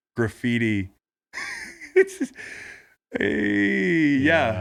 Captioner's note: laughing